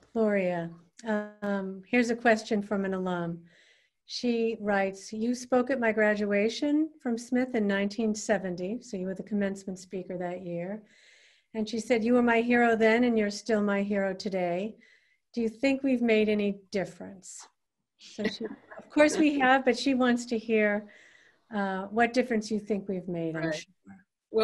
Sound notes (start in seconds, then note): 18.1 Gloria laughing